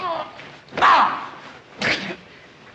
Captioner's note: exclaiming